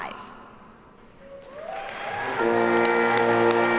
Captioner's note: audience cheers and applauds